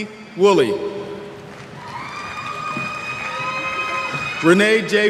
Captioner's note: cheers